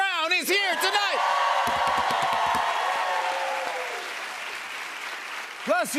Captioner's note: cheers and applause